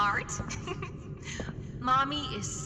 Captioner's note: laughs